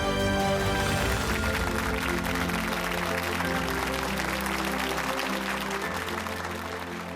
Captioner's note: applause